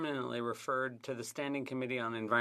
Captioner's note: speaking FRENCH